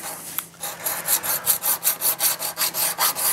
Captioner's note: repeated scraping